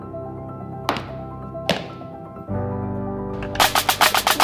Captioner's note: banging